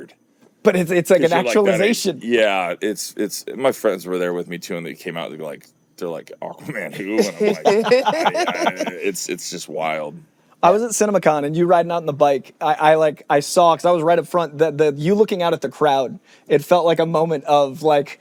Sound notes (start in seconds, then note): 6.6 laughing